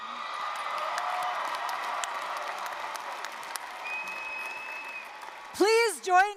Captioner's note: applause, cheering